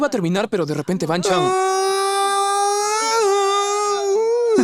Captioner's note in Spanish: Aparición dramática de la voz